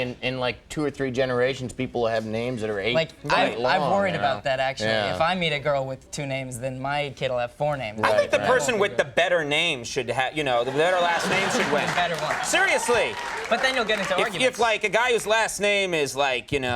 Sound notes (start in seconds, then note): 10.6 audience cheering